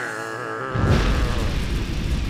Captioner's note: fire crackling